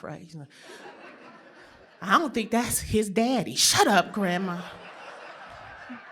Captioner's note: laughter